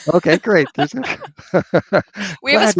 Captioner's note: laughter